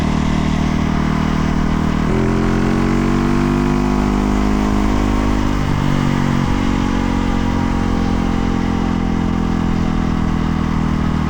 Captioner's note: engine revving